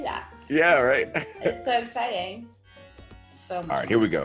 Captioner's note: laugh